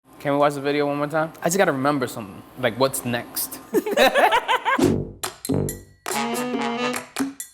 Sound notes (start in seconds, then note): 3.8 laughing